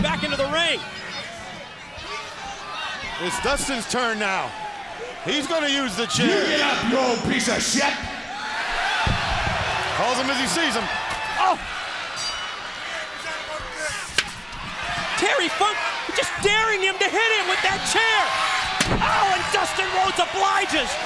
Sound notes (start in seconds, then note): 0.0 crowd chatter; 10.5 crowd cheering; 16.3 crowd chatter